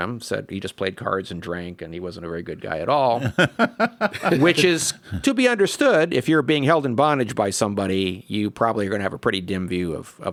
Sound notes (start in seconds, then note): 3.1 laugh